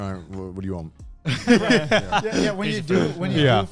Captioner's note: laughs